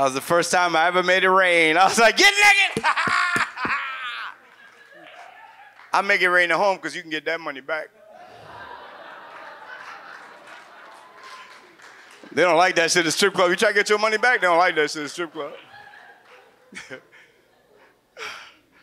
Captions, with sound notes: That was the first time I ever made it rain. I was like, "Get naked! Ha ha, ha ha!" (audience laughs) I make it rain at home, 'cause you can get that money back, (audience laughs and cheers) They don't like that shit at the strip club. You try to get your money back, they don't like that shit at the strip club.